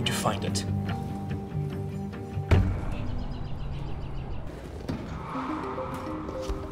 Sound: birds chirping; upbeat music; bright upbeat music

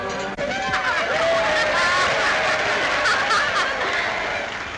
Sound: crowd cheering

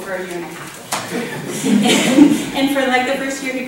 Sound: laughs

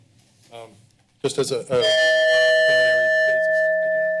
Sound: timer dings

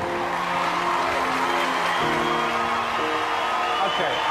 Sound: crowd cheering

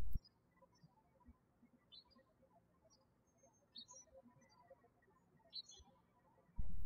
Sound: birds chirping

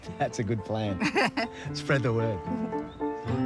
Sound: laughs

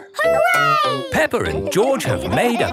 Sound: laughing

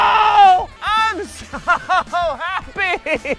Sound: crying

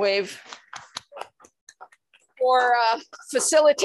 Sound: applause

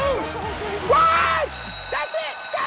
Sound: bell ringing

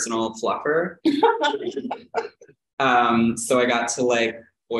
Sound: laughter

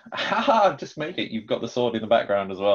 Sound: laughs

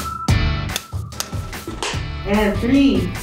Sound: clicking

